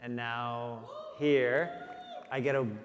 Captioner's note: audience cheering